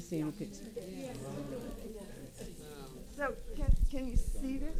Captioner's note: audience chattering